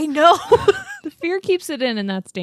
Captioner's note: laughs